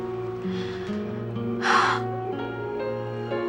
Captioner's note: exhales